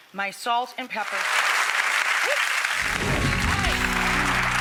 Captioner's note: audience applauding